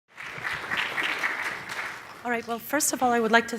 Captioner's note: audience applauding